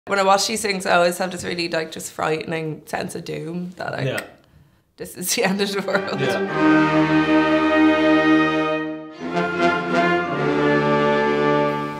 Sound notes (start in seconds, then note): 5.8 laughs